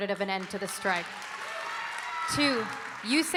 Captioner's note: audience cheering and applauding